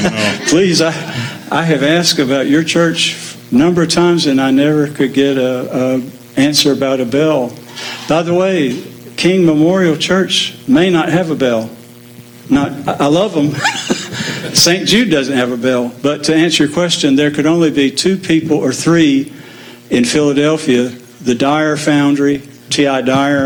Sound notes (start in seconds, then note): 13.4 laughs